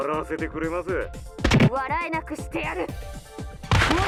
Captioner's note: crack!